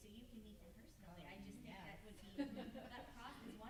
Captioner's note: group chuckling